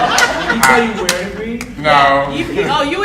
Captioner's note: laughing drowns out speaker; audience laughing